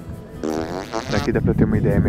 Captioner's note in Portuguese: prrrrr